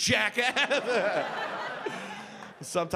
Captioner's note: audience laughing